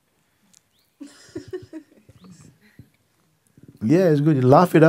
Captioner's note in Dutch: Vraagsteller lacht